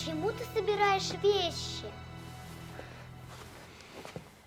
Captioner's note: shuffling